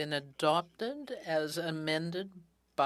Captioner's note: speaking in french